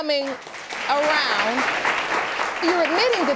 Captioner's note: audience applauding